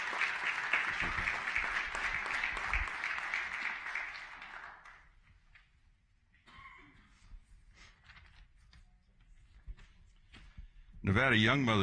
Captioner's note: applause